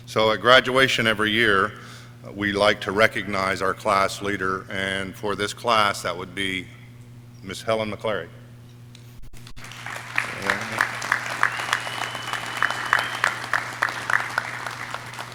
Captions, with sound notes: So at graduation every year, we like to recognize our class leader and for this class, that would be Ms. Helen McClary. (audience cheering)